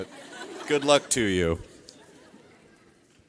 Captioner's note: audience laughing